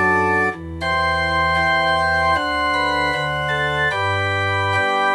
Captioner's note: none